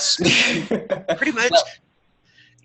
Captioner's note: laughter